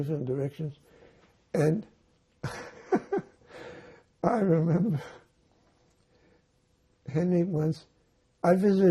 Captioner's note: laughing